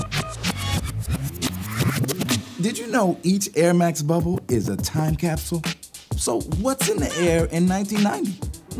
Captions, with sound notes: (upbeat electronic music) - [Voiceover] Did you know each Air Max Bubble is a time capsule? So what's in the air in 1990?